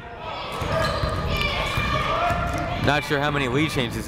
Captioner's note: people shouting in the crowd